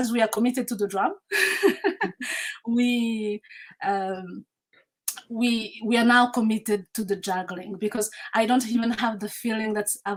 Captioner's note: laughs